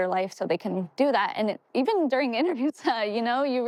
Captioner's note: chuckles